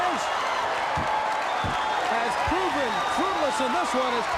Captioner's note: crowd cheering